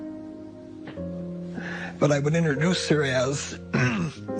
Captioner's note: clears throat